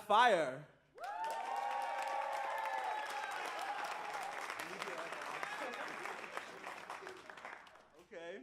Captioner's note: cheers and applause